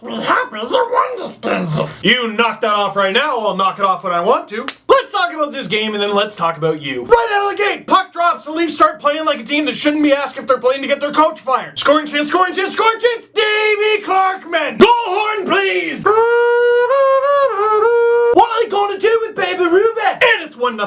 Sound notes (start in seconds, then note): 0.0 Gollum voice; 4.6 slap